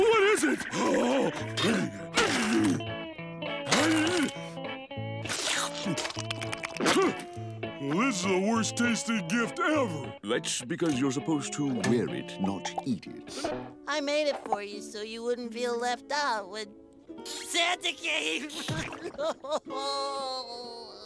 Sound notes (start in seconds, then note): 0.0 groaning; 3.6 grunting; 5.2 slurping; 19.2 crying